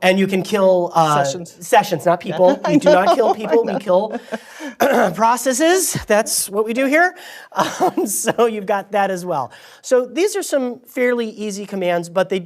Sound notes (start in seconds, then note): 2.3 laughter; 7.6 laugh